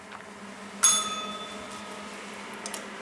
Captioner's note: bell rings